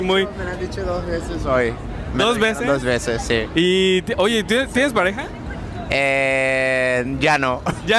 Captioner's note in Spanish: risas